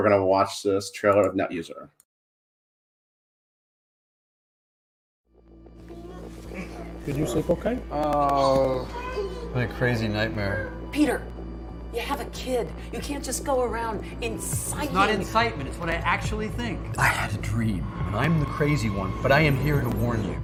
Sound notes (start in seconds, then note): 5.4 static hums; 5.4 ominous music; 8.2 baby cooing